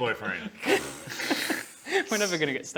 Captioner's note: pfff...pffff